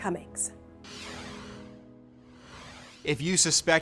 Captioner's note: logo whooshes softly